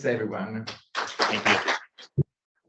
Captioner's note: audience claps